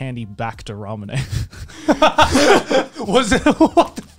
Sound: laughing

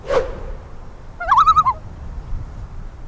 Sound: loon call

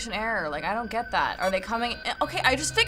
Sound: in game: alarms go off

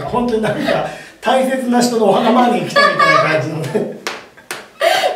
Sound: laughs !!

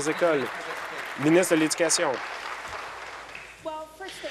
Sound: applause

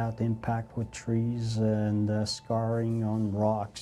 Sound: voiceover

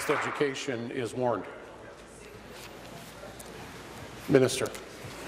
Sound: applause

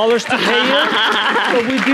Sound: audience applauding

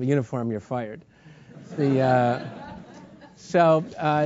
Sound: laugh

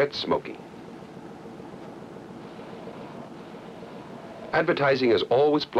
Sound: man takes a long puff then exhales

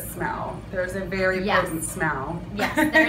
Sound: laughs

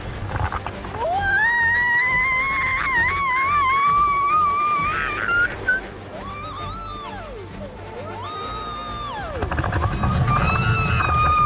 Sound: screaming

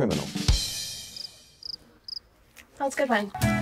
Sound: crickets chirping

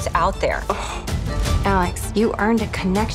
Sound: gasps

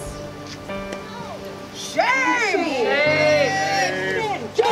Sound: crowd; crowd chanting

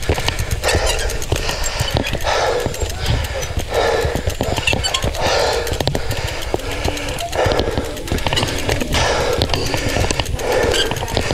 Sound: cycle Rides Sound; deep Breathing

